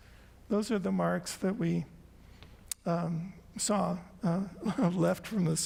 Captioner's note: chuckles